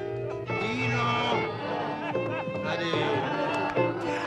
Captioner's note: party chatter